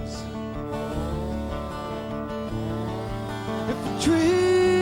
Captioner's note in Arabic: طنين المنشار